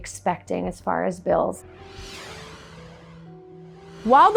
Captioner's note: screen whooshes